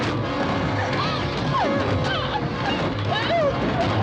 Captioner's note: whimpering